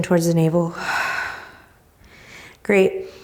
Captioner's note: exhaling